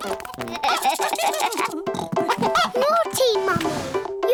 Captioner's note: giggling